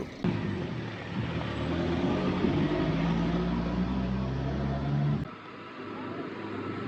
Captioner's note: traffic noises